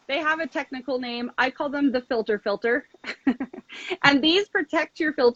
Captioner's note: laughs